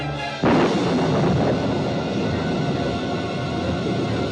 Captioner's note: thunderclap